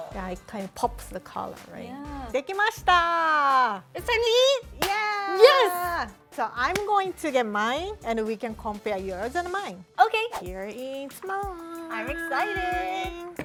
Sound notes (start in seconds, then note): 2.4 speaking Japanese